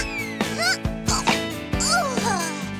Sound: sighs

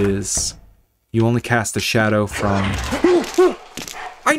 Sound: scared hooting

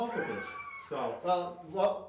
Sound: chuckles

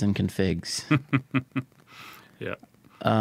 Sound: chuckling

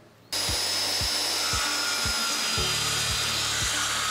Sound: saw buzzing

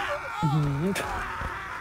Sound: disapproval noises

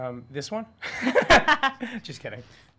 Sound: laughing

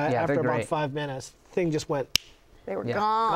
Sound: fingers snap

